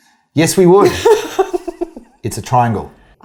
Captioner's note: laughing